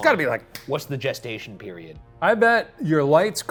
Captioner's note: fingers snapping